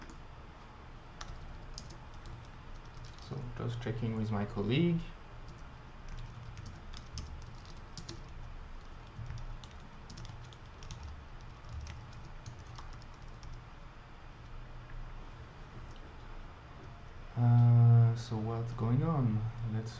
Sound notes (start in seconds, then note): 6.0 typing